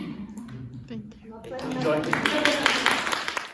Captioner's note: applause